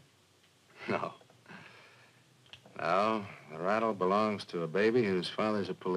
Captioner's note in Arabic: يضحك